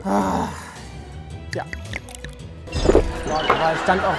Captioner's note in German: Trinkgeräusche, Schlucken